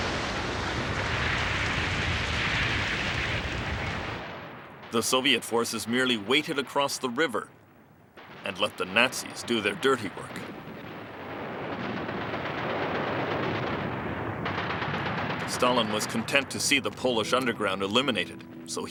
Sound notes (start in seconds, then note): 11.1 cannons firing